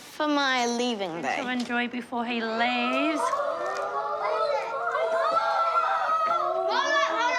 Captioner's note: kids exclaim excitedly